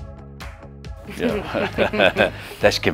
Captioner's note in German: lachen